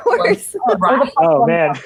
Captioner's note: laughing